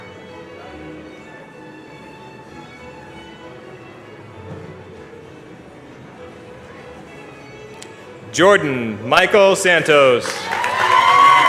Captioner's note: cheers and applause